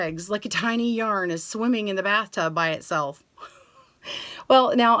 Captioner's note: chuckles